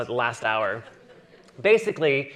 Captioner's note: audience chuckling